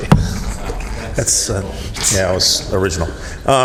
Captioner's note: laughter